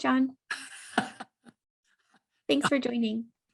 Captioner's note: laughs